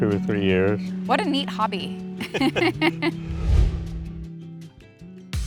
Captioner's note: laughing